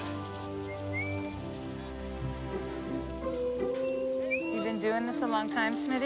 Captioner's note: Smitty whistles jauntily